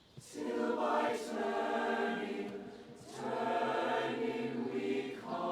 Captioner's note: none